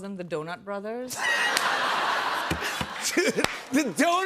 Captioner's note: laughter